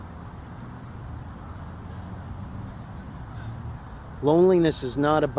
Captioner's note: distant traffic